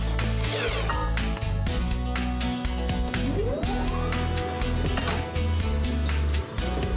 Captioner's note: clunk!